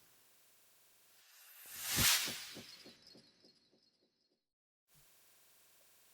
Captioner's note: sound effect